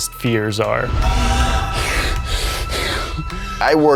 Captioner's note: panting